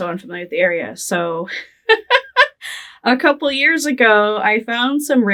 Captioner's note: laughing